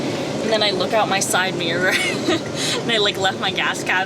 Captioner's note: laughs